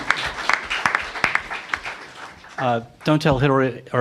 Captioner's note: applause